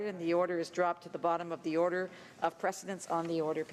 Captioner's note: speaking english